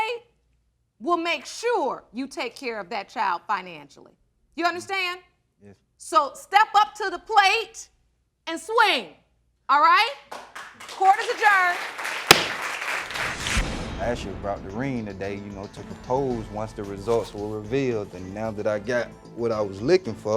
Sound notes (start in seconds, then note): 10.3 audience clapping